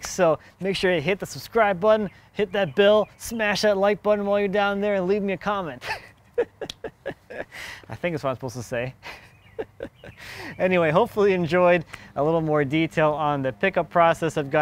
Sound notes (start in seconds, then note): 5.8 laughing; 6.6 slapping knee; 9.0 laughing